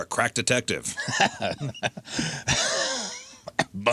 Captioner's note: laughing